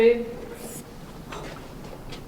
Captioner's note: scratching sound